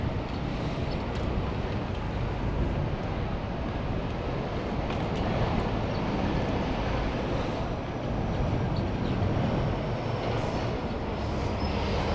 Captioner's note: wind Blowing